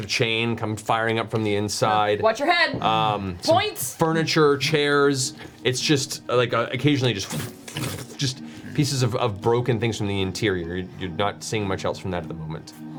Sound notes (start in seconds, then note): 6.6 water sound effects